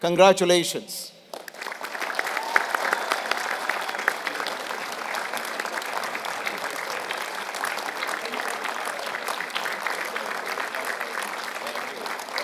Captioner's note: applause